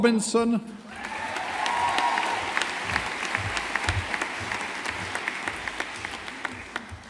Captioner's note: audience applauding